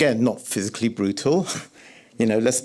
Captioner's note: scoffs